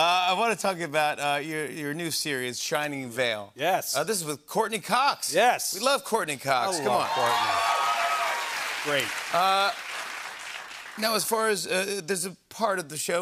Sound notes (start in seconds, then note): 6.7 cheers and applause